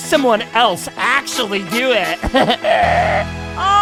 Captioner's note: laugh/snort